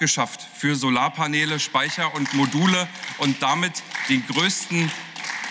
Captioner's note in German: Beifall